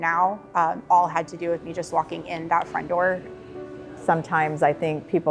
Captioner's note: chatter